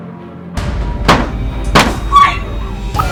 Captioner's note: gun fires